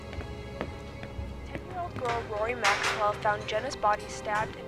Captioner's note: news broadcast